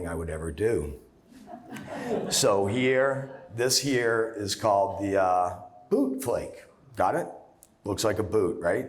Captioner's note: laughter